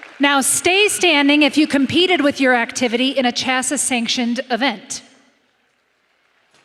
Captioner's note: applause